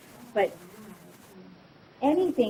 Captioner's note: student speaking faintly